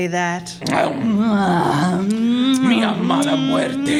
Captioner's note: makeout sounds; whispering